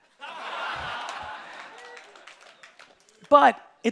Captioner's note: audience laughing